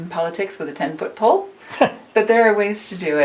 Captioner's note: chuckles